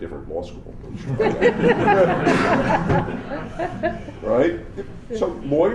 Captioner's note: laughter